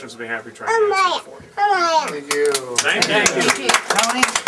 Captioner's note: applause